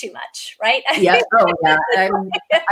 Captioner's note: laughs